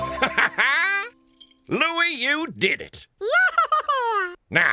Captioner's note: laughs